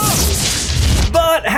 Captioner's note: spell bursts